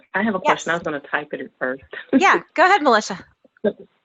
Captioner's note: laugh